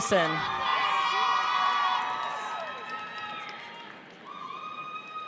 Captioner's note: audience cheers